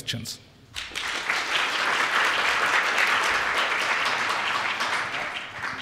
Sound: applause

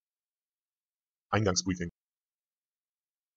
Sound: fast Pronunciation

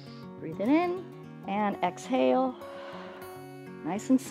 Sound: exhales

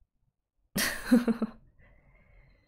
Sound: laughs

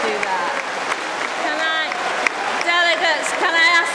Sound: applause

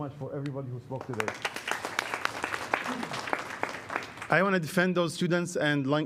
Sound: applause

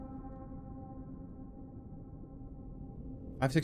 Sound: humming sound

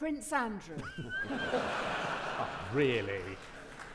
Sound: audience laughing; audience clapping

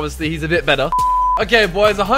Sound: beep

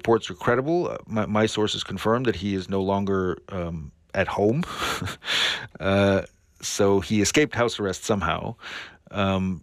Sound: laughter

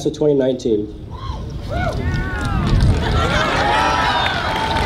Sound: audience cheers

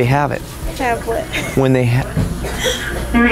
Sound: giggles

